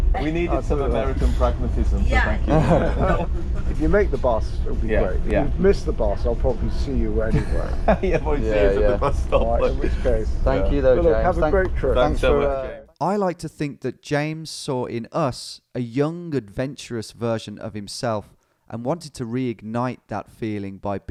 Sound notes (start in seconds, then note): 2.4 laughs; 7.3 laughs